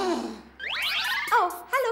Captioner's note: beeping